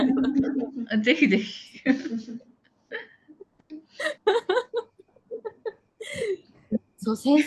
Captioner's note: laughs